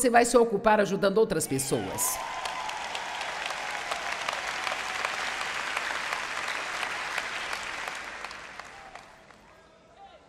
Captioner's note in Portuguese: audiência aplaude